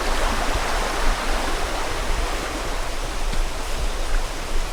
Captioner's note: water rushing